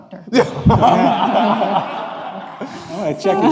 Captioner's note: laughing